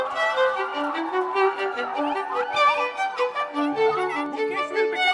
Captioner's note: crowd Cheering